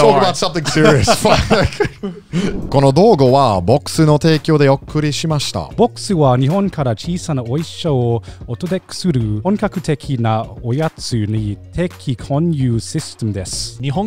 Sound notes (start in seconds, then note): 0.7 everyone laughs; 5.7 speaks Japanese